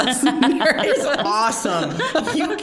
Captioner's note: all laughing